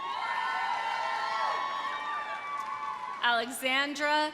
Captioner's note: audience applauding; audience cheering